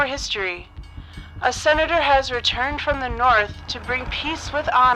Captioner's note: train bells; motor